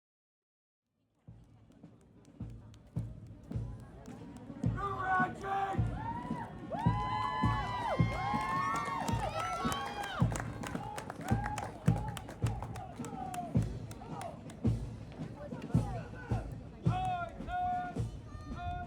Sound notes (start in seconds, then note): 5.5 soldier calling orders; 9.8 crowd cheering; 14.7 drum beats